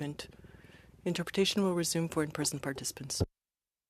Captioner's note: speaking french